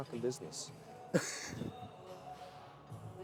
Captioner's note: man laughing